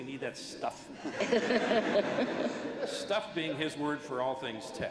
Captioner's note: laughter